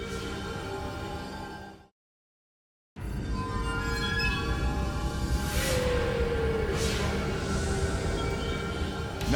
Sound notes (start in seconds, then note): 0.0 mysterious music; 2.7 graphics whooshing; 3.0 mysterious music